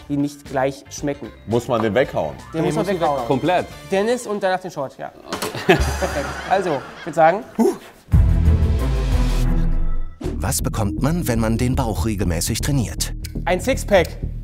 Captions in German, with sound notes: Wir bekommen verschiedene Shots. - Muss man den weghauen? Ja. - Komplett? Dennis und danach den Shot. (Lachen) Also, ich würd sagen ... (Stöhnen) (Spannungsvolle Musik) Einen Sixpack.